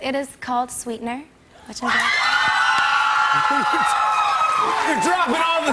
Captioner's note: cheers and applause